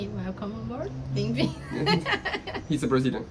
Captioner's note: welcome in Portuguese